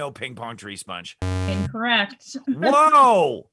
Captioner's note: error sound